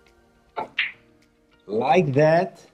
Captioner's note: ball smacks